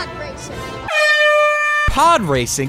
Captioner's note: airhorn